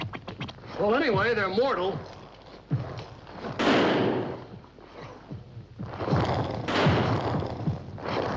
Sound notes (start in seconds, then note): 0.9 estrondo tiros